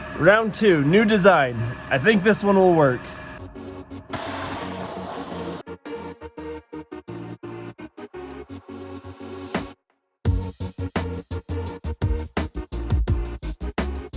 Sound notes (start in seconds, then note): 4.1 tool whirs; 4.6 upbeat music